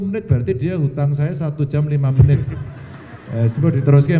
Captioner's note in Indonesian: tertawa